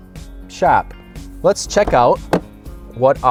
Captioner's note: Jeep door opens